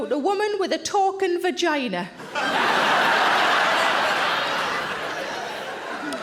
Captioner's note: audience laughs